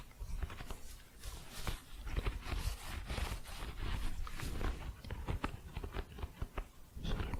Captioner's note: thick scratching